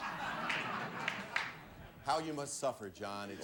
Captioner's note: audience laughing